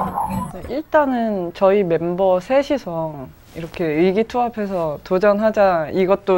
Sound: speaking in foreign language

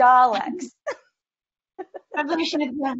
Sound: laughs

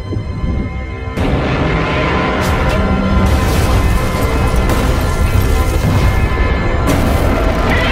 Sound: Godzilla Minus One roars

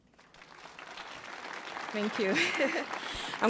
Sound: audience clapping

